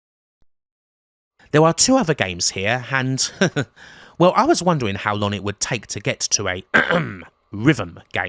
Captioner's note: ahem